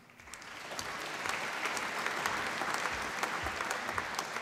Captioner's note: applause